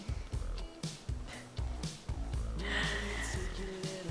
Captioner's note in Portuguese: risos